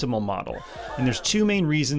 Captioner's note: computer-generated sighing